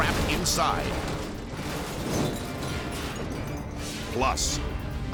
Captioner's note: intense music; flames whipping